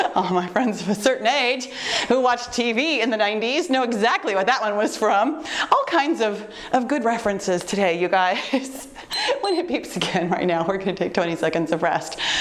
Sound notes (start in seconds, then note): 9.1 timer beeps